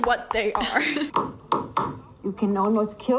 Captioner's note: whak whakk whakk